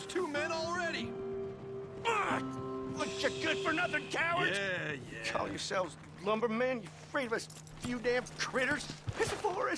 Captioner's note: screams of frustration